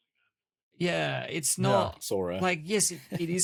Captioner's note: laughs